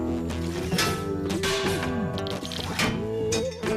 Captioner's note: metal Clanging